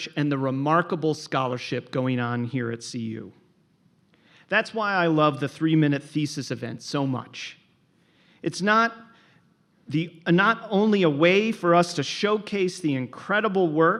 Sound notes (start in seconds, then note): none